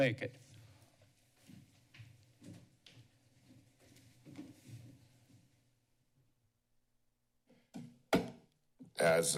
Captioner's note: silence